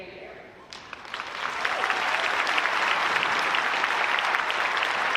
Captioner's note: audience applauding